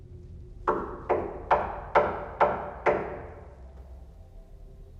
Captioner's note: Chip knocking